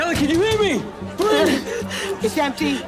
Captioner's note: gasping